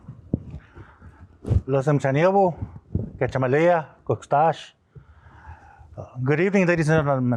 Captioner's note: non-english speech